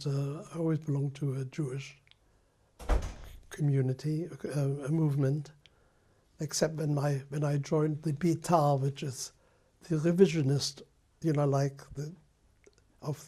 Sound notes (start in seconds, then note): none